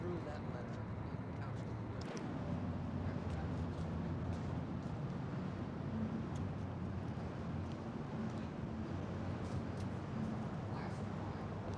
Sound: murmuring/street noise

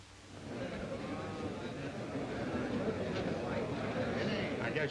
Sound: crowd noise in background

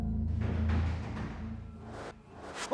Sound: thud, thud, thud

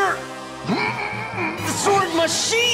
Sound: groaning

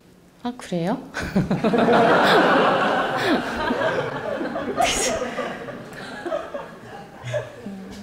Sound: audience/Questioner Laughter

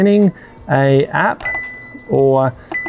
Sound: control panel dings

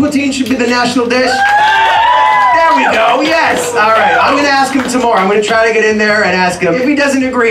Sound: applause

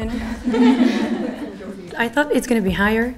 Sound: laughing

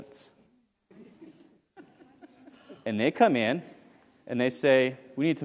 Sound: laugh

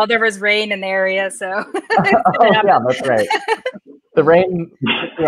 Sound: laughs

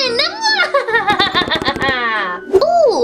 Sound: laughing

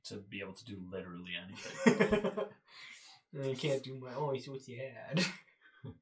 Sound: laughs

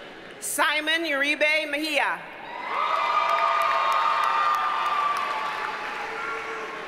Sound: audience cheers and applauds

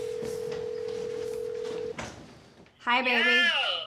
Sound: line trilling

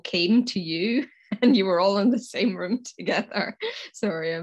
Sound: laughs

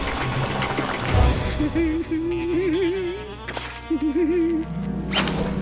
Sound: laughing

